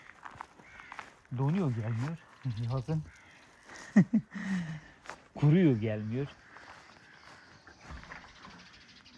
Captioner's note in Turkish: kahkaha